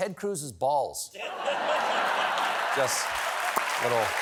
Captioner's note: laughter; applause